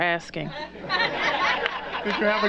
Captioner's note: laughter